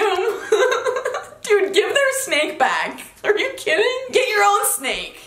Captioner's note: laughing